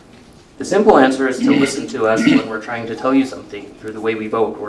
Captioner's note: clears throat